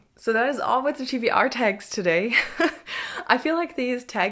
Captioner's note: chuckles